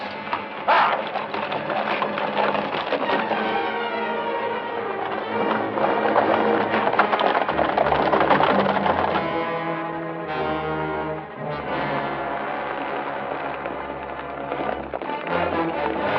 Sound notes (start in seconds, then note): 0.0 tense music continues; 5.6 horses galloping